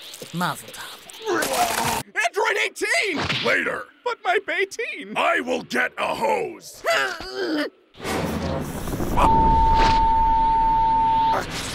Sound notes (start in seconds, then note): 1.2 Cell vomits again; 6.8 Krillin groans